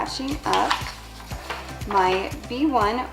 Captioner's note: rustling